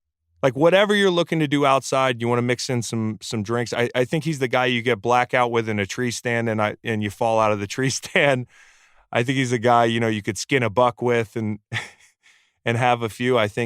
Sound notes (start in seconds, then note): 8.6 laughs